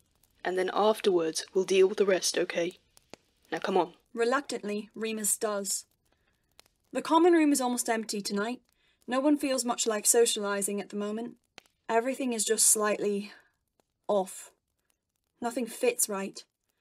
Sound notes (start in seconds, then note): none